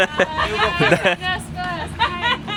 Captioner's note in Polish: śmiech